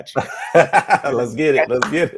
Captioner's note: group laughing